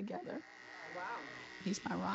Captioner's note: razor Buzzing